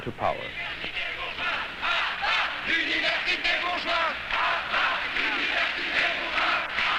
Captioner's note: chants